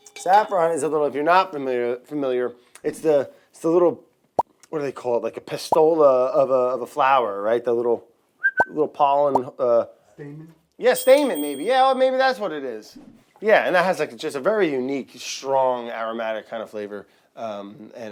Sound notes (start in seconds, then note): 4.4 pop noise; 8.4 whistling